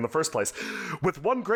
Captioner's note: gasps for air